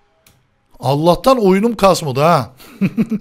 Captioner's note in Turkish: Gülme Sesi